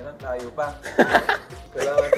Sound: laughs

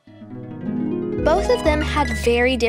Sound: screen chimes

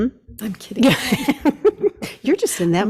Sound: laughs

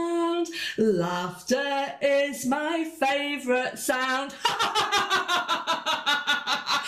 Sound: laughs

